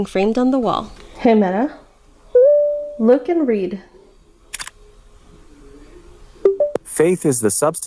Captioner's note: camera click